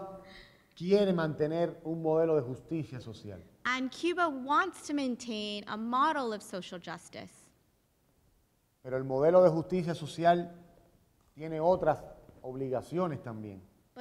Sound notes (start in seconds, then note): 7.5 speaking in Spanish